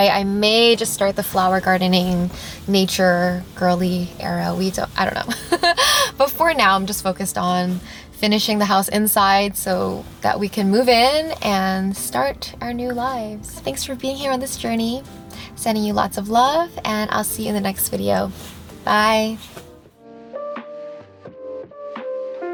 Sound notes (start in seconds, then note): 5.2 giggles; 19.9 bright music